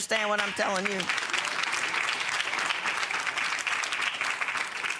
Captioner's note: audience applauding